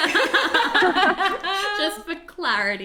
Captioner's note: all laugh